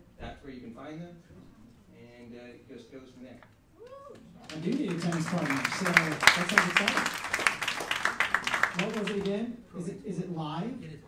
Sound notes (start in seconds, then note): 4.4 applauding drowns out speaker; 4.5 cheering